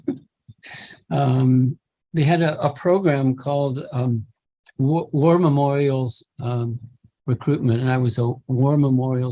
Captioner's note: chuckle